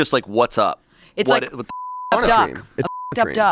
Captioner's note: beep